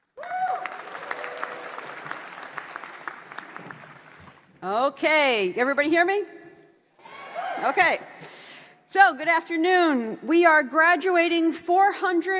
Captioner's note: applause